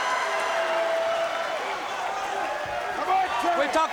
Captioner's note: crowd cheering